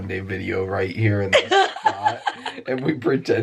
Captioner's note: laughs